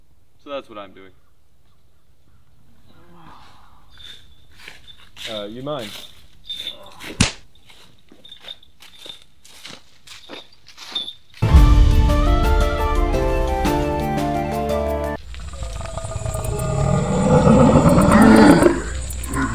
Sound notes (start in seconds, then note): 2.8 groans; 7.0 smacks